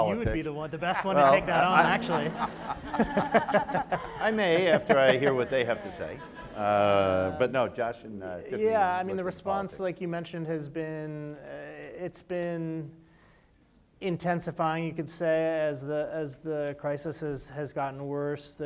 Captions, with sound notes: - I was thinking you would be the one, the best one to take that on, actually. (audience laughs) (panelists laugh) - I may, after I hear what they have to say. (audience laughs) But no, Josh and Tifani-- - Yeah, I mean, the response, like you mentioned, has been, it's been intensifying, you could say, as the crisis has gotten worse.